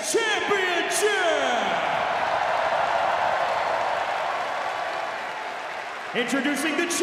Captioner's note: crowd cheering